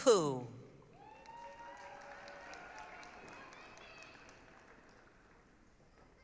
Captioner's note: applause, cheering